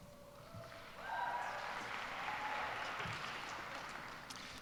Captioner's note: cheers and applause